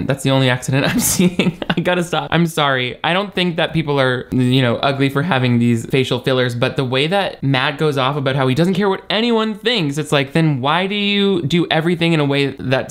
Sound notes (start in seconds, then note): 0.8 chuckles